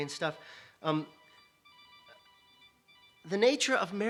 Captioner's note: <i>Brief pause</i>